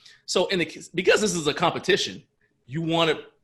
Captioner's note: none